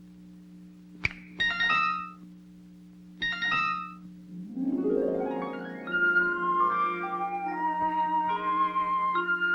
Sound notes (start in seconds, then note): 0.8 whimsical chimes; 1.0 finger snaps; 4.3 whimsical music